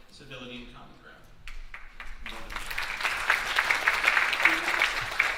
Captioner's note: audience applauding